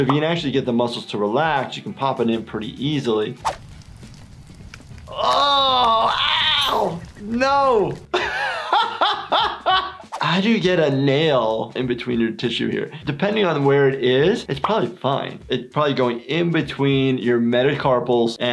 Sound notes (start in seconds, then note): 5.4 yelling; 8.1 laughs